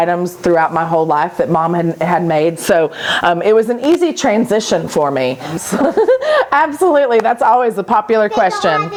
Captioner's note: laughing